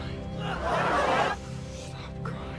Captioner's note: crowd screaming loudly